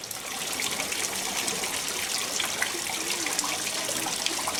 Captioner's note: water dripping